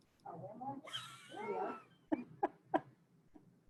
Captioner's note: chuckles